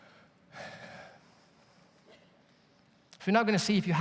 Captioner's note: sighs